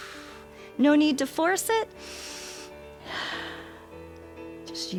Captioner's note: exhales; inhales and exhales